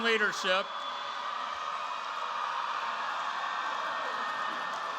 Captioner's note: cheering